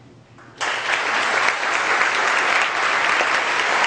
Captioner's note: audience applause